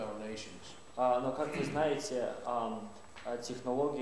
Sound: speaking russian

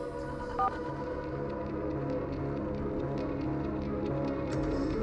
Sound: electronic beeping

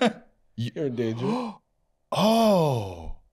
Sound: gasps

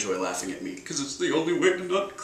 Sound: fake sobbing

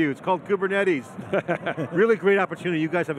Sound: laughs

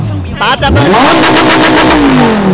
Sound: engine rumbling; engine rumbling continues

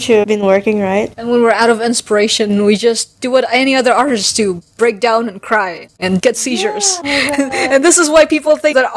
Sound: guffaws

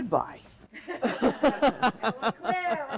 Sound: laughter

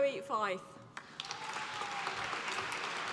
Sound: applause

